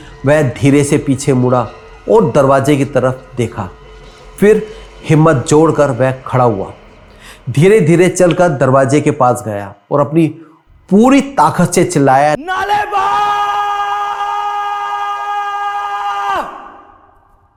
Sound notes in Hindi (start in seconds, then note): 12.4 चीखने की आवाज़